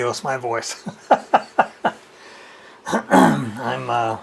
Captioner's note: chuckles